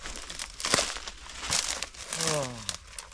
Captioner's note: footsteps rustling